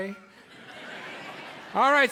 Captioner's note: audience laughs